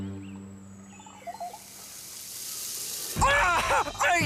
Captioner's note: sizzling